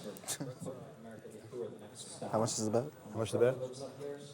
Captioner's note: chuckles